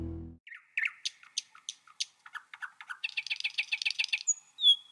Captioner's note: birds chirping